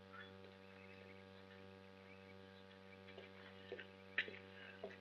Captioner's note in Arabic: خطوات